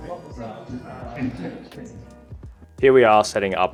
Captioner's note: laughs